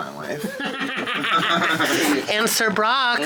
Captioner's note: group laughing